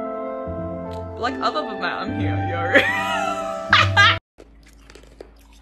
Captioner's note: combusts into laughter